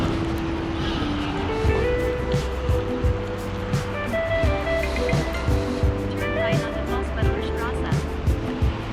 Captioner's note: wind Blowing; beeping